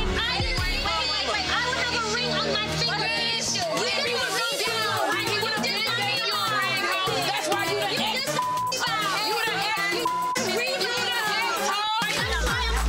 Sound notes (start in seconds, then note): 8.3 beep; 12.6 tense electronic music